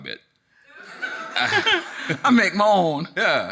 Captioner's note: audience laughing